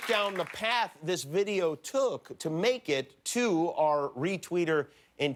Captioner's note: applause